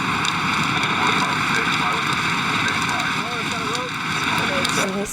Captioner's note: radio chattering